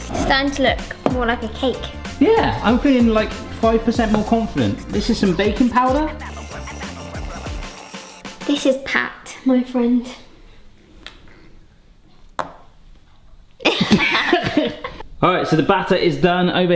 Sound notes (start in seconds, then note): 13.7 both laughing